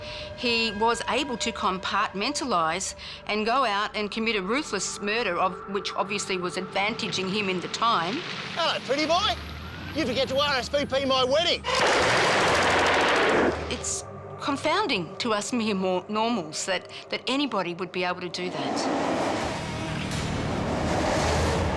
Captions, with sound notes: he was able to compartmentalize and go out, and commit a ruthless murder of which obviously was advantaging him at the time. - Hey, Pretty Boy? Did you forget to RSVP to my wedding? (gunfire rattling) - It's confounding to us mere normals that anybody would be able to do that. (intense music)